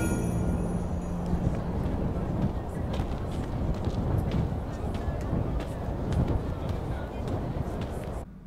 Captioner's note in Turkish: Rüzgâr sesi